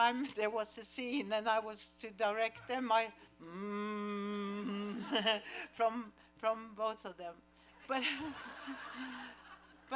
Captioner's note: humming